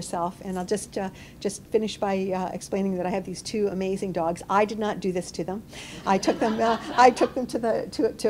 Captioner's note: laughter